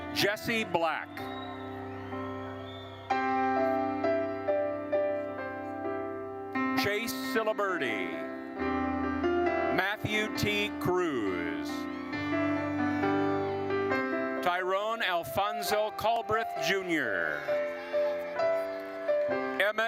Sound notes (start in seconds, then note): 2.3 attendees cheering; 2.3 gentle music continues; 11.7 gentle music continues; 17.5 gentle music continues